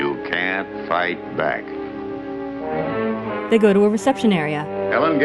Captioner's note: deep horn blasts play